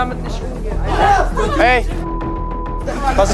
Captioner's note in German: Schreie